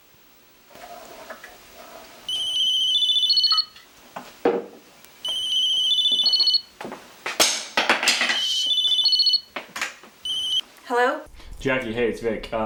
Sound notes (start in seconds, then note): 2.3 phone ringing